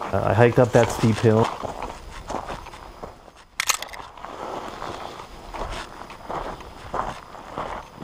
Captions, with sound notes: I hiked up that steep hill (footsteps thudding)